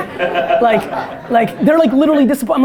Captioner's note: audience laughter